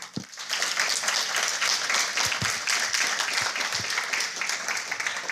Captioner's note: applause